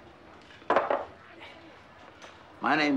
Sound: cups banging

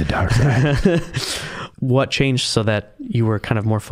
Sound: laughing

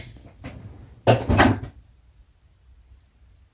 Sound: something crashes to the floor

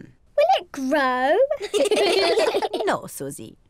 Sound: all laugh

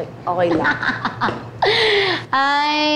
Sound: laughs

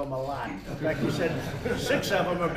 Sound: laughter

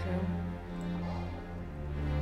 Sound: quick exhale

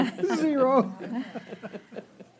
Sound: laughter

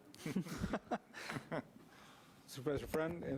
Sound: laughing

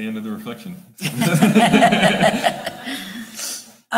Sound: all laughing

